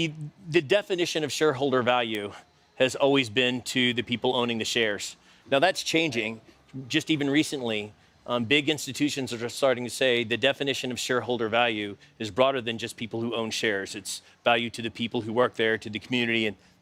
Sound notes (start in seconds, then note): none